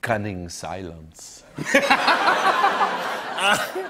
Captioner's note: laughter